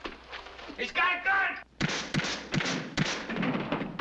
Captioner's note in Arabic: طلقات نارية